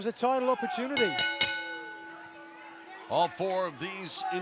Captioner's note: bell ringing